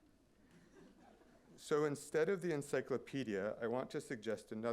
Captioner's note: laughter